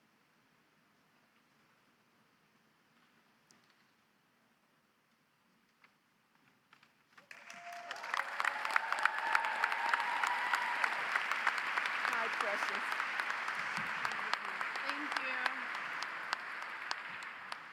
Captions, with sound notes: (audience applauds) (audience cheers) Hi, precious. Thank you.